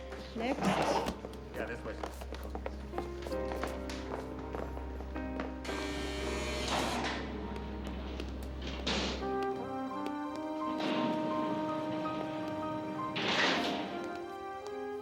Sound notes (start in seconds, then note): 5.7 buzzing; 10.3 somber instrumental music playing